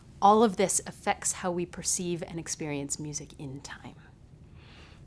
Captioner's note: none